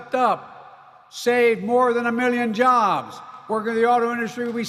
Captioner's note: applause